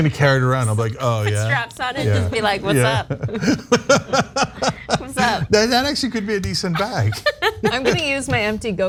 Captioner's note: laugh